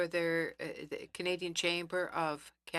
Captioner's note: speaking French